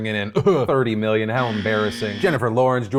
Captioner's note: buzzer blaring